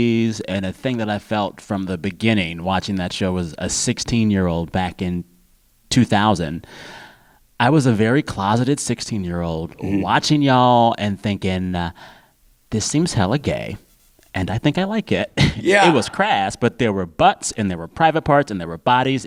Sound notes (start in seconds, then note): 15.3 laughter